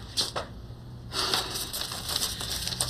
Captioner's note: sighs